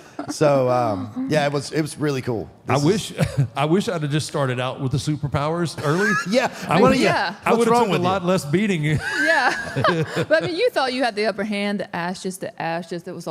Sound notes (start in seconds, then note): 0.1 Michelle laughs; 9.0 all laughs